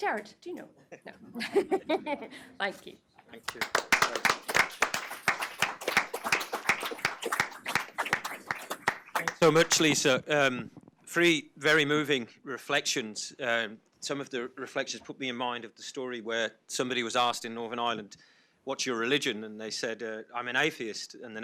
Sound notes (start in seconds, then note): 1.4 audience and panelists laugh; 3.4 everyone applauds